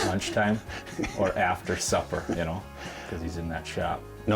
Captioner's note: laughs